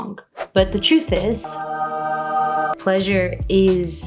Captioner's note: angelic sound